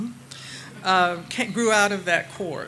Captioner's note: audience laughing